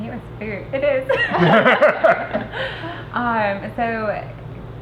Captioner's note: everyone laughing